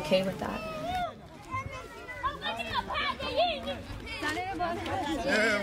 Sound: people talking

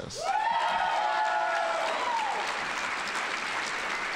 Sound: audience applauding

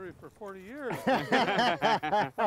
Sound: group laughs

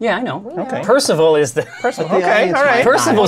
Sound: laughs

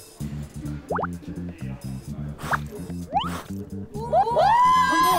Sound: blowing!

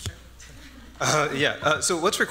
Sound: laughs

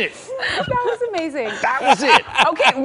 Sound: laughter

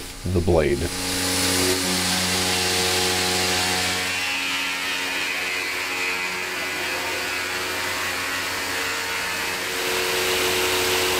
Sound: machine noise

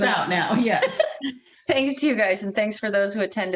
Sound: laughter

